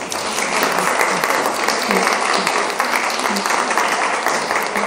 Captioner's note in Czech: potlesk